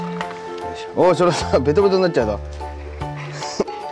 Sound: laughs

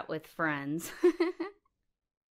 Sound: se ríe

